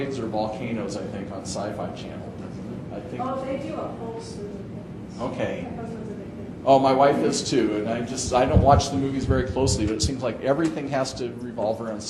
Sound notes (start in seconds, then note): 6.3 women conversing quietly